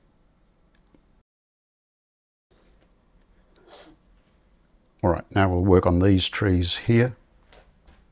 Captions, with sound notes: [silence] All right, now we'll work on these trees here.